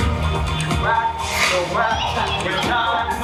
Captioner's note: giggles